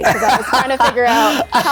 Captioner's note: laughing